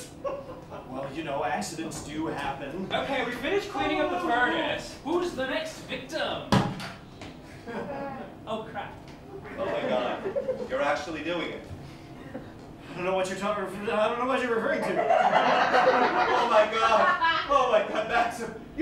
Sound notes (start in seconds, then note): 0.0 Mr. Hughes Laughs; 7.6 laughter; 9.4 laughter; 12.8 stammering; 14.8 laughter